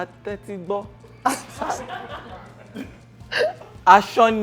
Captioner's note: laughs